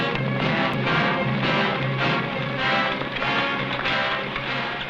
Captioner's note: horse hooves pattering